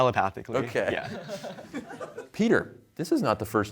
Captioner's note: laughter